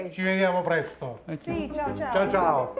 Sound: speaking Italian

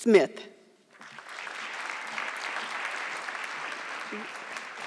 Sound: audience clapping

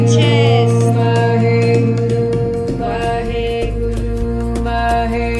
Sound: chanting in foreign language

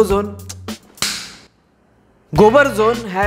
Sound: slaps

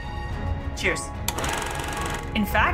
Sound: film rolling sound effect

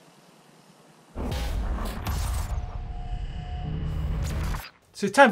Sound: metal clashing and sparking

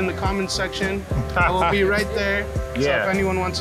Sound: laughs

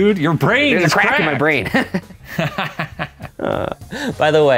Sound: chuckles

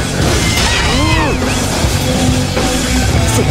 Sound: fatal scream

